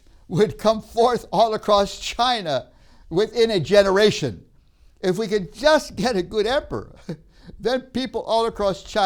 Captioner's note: laughs